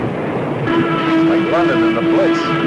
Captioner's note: explosion booming; plane whooshing